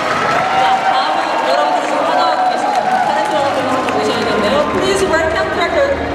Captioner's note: audience applauding; speaking Korean